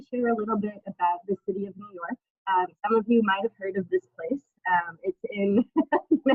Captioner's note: laughs